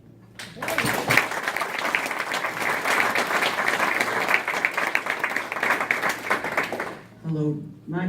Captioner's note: clapping